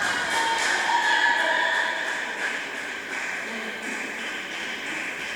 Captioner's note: applause